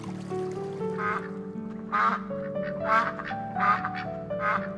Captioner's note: ducks honking